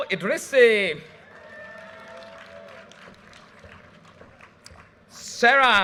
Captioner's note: audience cheers and applause